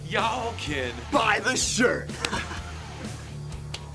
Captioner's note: laughter